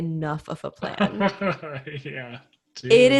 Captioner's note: laughs